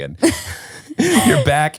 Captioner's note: laughs